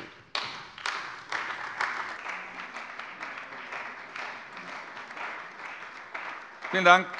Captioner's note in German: Beifall bei der CDU und dem BÜNDNIS 90/DIE GRÜNEN